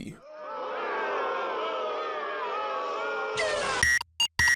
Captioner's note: audience booing